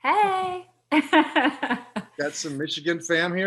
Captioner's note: laughs